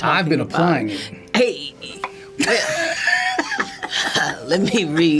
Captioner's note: John laughs